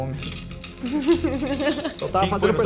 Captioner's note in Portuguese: risos